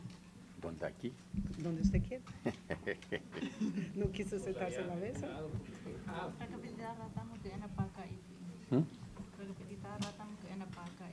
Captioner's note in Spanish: risas